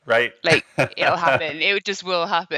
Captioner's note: laughing